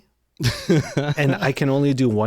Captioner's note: laughs